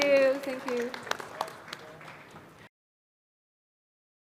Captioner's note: crowd applauding